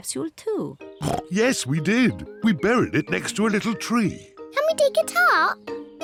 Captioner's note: oinks